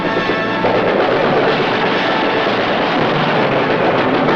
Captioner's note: instrumental music; gun bangs